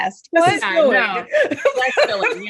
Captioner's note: laughs